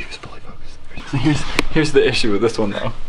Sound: stops whispering

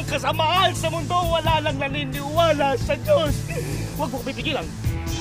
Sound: sobs

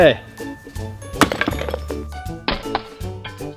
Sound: thump

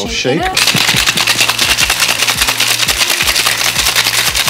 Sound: ice clacks

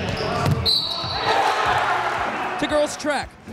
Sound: crowd cheering

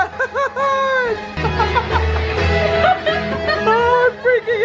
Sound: laughing

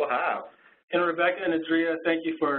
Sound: voiceover

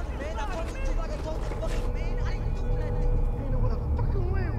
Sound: people arguing loudly

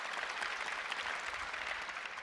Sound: applause

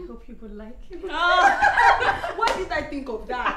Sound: laughter

